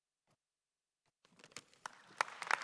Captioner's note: applause